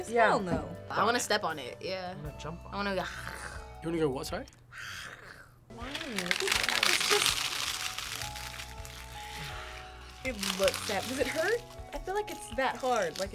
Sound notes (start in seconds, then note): 3.4 growls; 5.3 growls